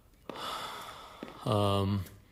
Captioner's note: Sighs